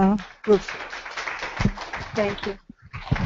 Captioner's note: crowd applauding